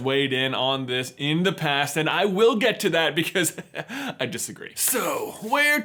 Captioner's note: laughs